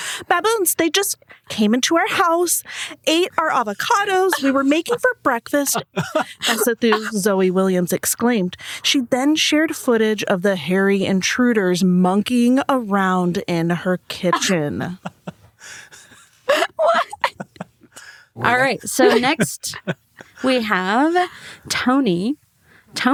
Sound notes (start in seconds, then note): 5.5 group laughs; 15.0 group wheezes